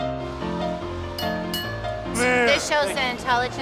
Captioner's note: trolley dinging